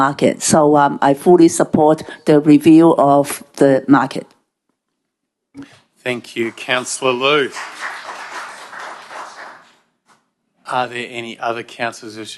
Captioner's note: applause